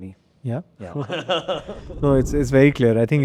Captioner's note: laughing